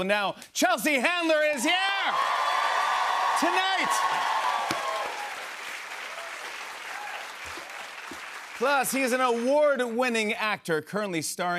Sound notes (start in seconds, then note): 4.3 cheers and applause